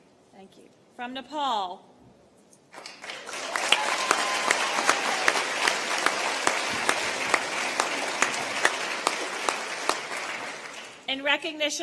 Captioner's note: applause